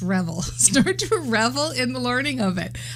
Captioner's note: laughing